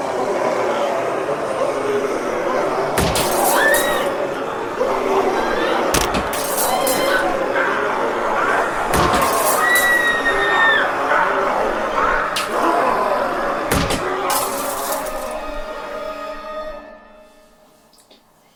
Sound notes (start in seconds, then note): 1.3 demonic roars and snarls; 3.0 glass shatters; 3.2 Hannah screams; 6.0 glass shatters; 6.5 Hannah screams; 8.9 glass shatters; 9.0 Hannah screams; 12.5 demonic roars and snarls; 13.7 glass shatters